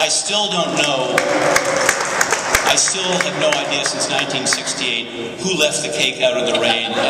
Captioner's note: applause